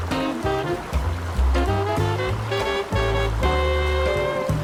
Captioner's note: powerful water stream